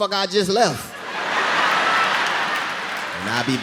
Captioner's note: audience laughing